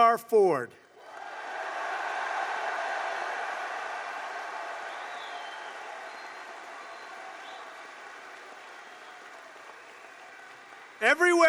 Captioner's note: applause